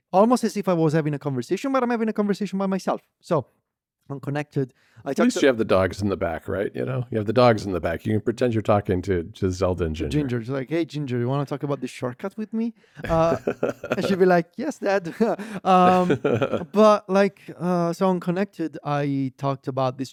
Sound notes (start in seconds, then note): 13.0 laughs